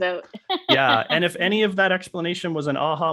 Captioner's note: laughing